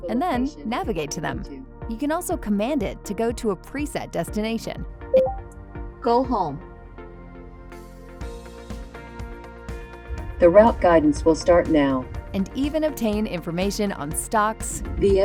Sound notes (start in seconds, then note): 5.1 VR System beeps; 8.0 uptempo music